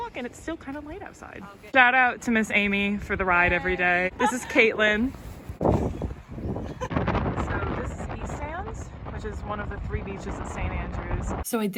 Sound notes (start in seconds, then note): 4.0 girls laughing; 7.0 ocean winds blowing